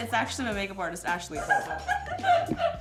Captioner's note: laughter